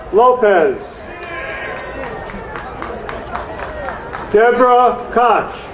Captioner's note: crowd cheering